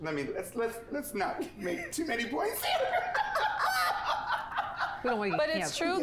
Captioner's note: laughs